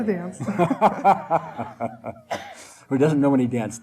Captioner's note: laughing